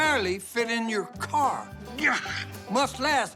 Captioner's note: groaning